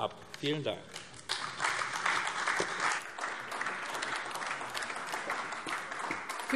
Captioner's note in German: Beifall AfD